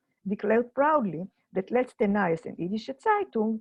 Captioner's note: in foreign language